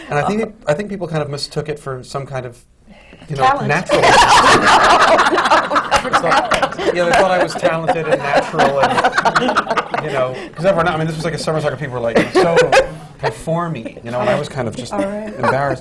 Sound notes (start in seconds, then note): 4.0 laughter